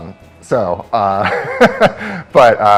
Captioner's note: laughs